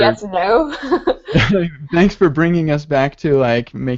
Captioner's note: laughs